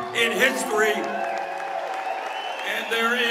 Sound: cheers and applause

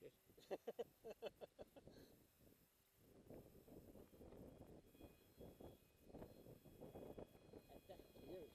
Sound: laughter

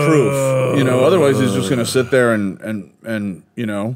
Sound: Holgast groaning

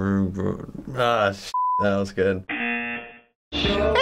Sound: buzzer

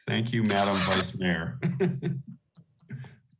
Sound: laughter

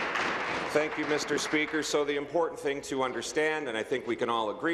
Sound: applause

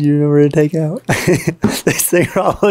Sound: speaker laughing

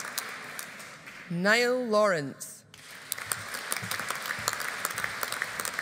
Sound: audience applauding

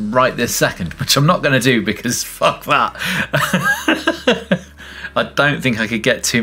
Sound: laughs

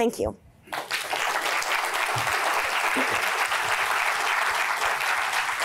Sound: audience applauding

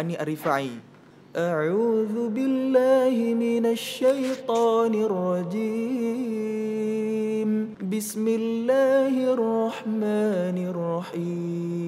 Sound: recites quran

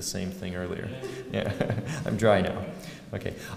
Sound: laugh

